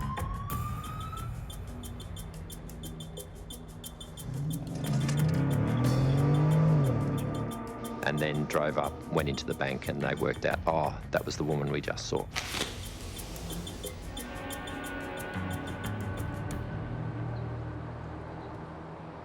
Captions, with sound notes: (sirens wailing) (dramatic music) (car engine revving) and then drove up, went into the bank and they worked out, "Ah, that was the woman we just saw." (dramatic music continues)